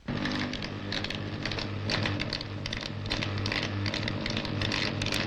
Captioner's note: machine whirring and sparking